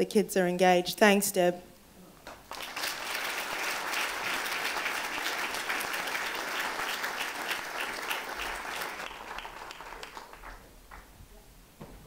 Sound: applause

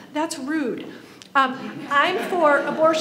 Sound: audience laughs

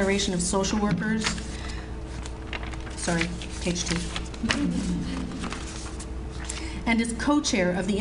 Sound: audience Laughs

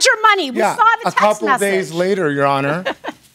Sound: laughs

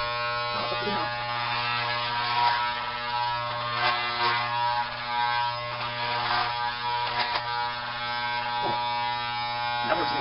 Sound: hair clippers

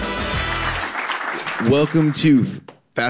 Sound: audience applauds

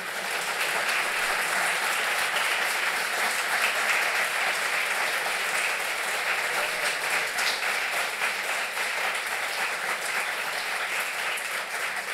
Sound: applause

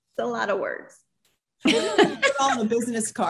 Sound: panel laughs

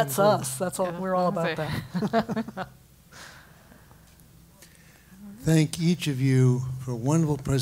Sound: laugh

